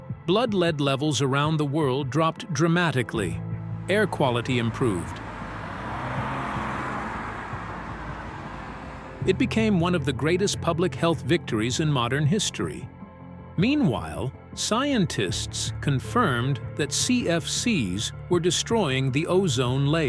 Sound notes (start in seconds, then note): 5.8 traffic bustling